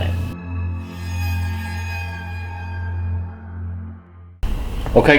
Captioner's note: spooky sound effect